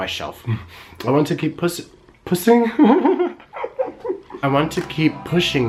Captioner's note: laughs